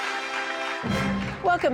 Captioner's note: audience applauds; dramatic music